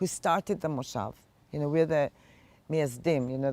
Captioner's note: hebrew